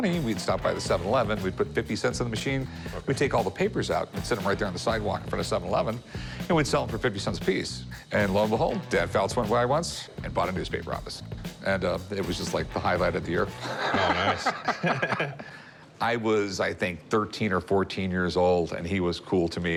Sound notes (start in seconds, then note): 13.5 laughing